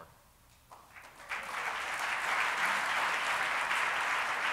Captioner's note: applauding